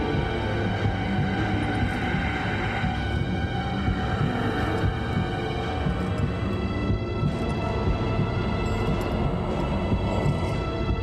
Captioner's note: deep breathing